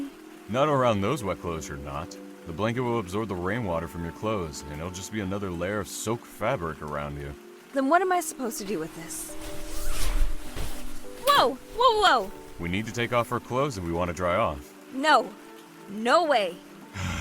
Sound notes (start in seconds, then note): 9.4 clothing unzips